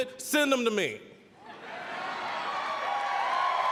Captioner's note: audience laughing; applause, cheering